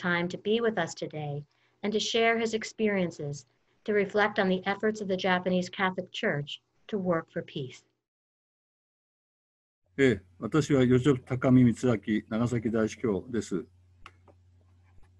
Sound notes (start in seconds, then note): 10.1 speaking in foreign language